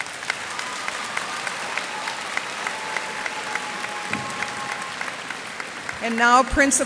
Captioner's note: cheers and applause